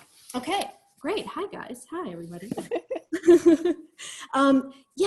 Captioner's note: laughter